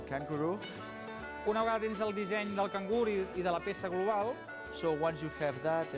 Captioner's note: non-english speech